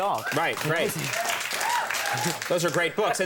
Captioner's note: crowd cheers